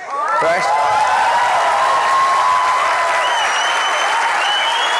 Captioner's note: audience cheering and applauding